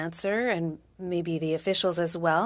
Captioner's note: speaking french